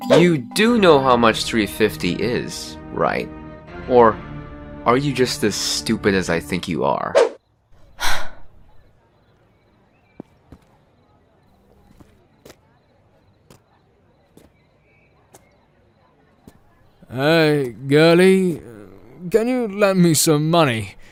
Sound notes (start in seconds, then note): 7.9 sigh